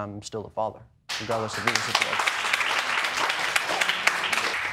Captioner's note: audience applauding